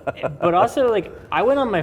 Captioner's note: laughs loudly